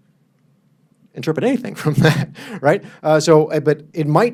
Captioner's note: laughs